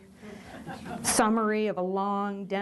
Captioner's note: chuckles